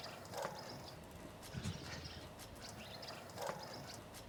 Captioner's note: birds chirping